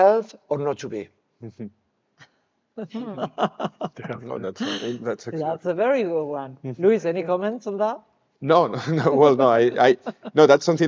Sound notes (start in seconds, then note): 2.8 speakers laughing